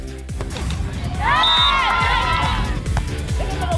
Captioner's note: cheers; whistle blows